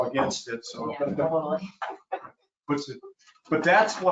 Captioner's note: chuckling